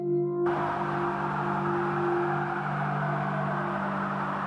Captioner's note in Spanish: sirenas distantes